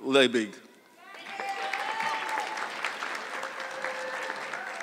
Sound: audience clapping

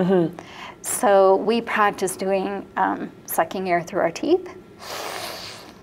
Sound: sucks in air

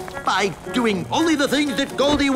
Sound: none

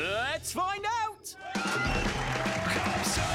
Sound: cheering

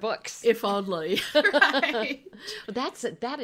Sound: laughing

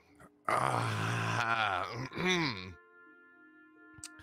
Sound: clears throat

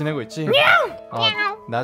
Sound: angry meow

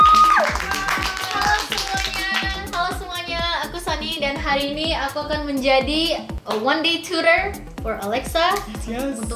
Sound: applause

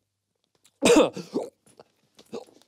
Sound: coughs

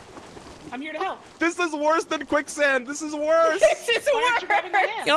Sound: laughs

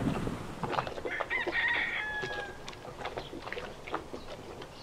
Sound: rooster crowing

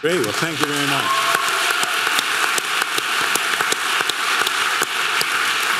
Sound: audience cheering and clapping

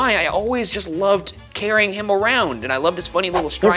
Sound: none

